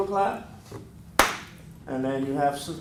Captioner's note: hand clap